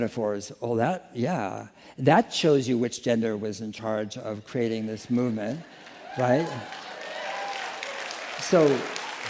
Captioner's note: applause